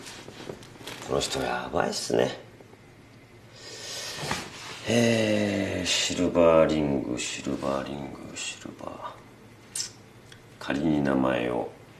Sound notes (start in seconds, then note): 8.5 clicks tongue